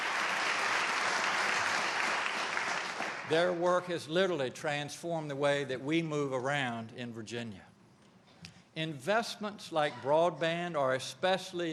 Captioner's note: applause